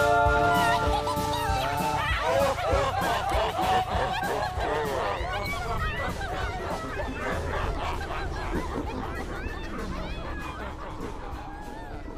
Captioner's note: demonic laughing and impish giggling